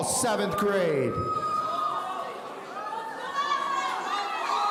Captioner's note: audience cheering